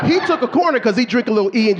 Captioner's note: audience laughing